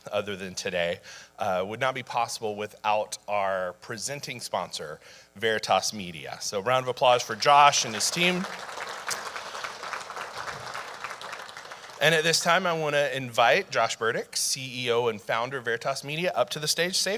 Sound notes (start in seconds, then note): 9.0 audience applauding